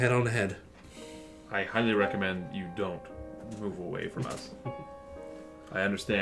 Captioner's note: sighs through his nose